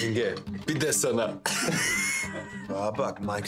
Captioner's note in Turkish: Gülüyorlar